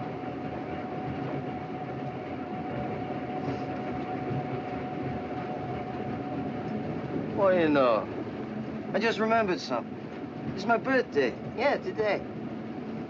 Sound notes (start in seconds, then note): none